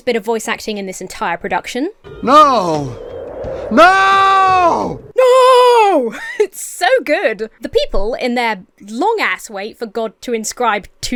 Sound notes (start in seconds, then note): 6.1 Emma chuckles